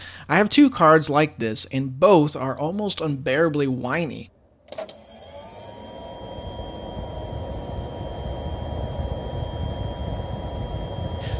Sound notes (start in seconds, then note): 4.8 high pitched fan noise